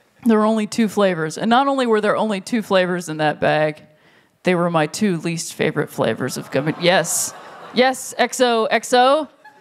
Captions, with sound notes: There were only two flavors, and not only were there only two flavors in that bag, they were my two least favorite flavors of gummy bears -- [audience groans] Yes! Yes, XOXO.